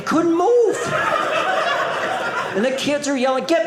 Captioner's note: audience laughing